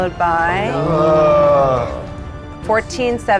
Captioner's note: players groaning